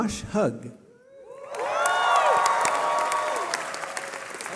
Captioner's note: cheering